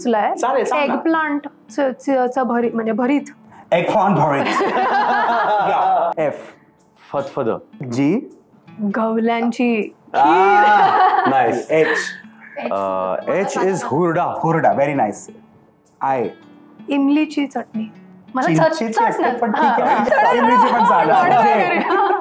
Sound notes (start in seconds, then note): 4.4 laughter